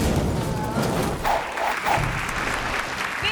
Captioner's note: airplane crashing; graphic whooshing; hands clapping